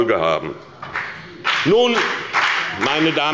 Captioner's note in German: Beifall bei der SPD und der FDP